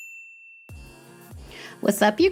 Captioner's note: bell dings